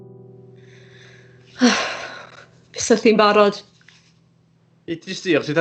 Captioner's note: she sighs